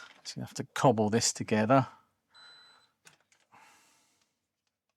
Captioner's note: beep